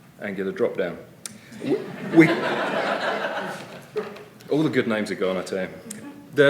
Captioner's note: laughter